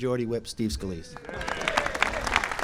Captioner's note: applause